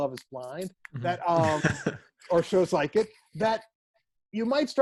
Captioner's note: chuckle